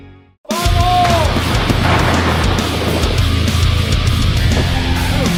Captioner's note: intense rock music; weapons exploding; intense rock music continues